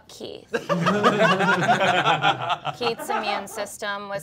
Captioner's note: all laughing